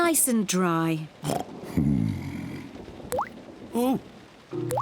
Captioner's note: oinks